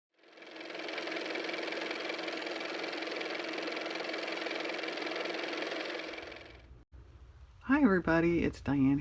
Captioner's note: car motor